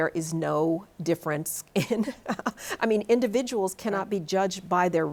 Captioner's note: laughs